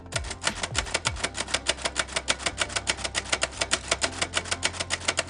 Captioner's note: typewriter keys clacking